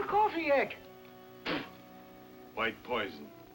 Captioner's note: spits